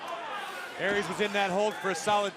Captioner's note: crowd cheering